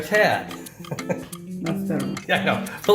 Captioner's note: laughs